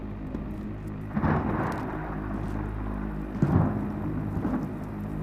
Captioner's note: thunder crashing